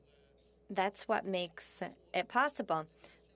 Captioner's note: speaking French